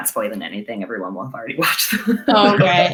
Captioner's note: laughs